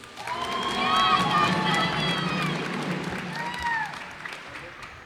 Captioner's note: cheers and applause